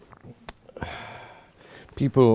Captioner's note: sighs and raises his arm